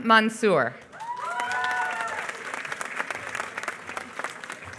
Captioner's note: applause